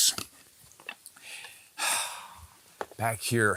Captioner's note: exhales deeply